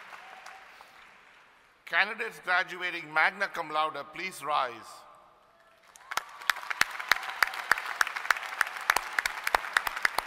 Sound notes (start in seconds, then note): 5.6 applause